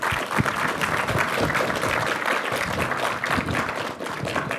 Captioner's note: applause